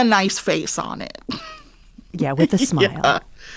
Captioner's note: laughter